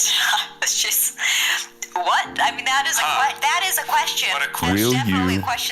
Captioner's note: laughs